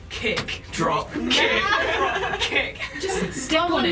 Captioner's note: chanting